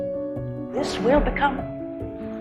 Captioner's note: voiceover